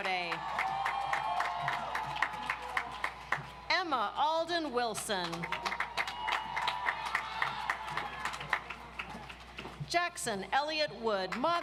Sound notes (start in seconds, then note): 0.0 audience applauds; 5.2 audience applauds